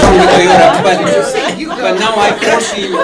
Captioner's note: laughter